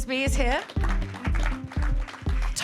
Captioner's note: clapping